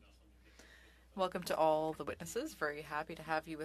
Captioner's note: speaking French